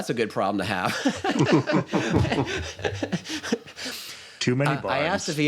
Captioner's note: laughter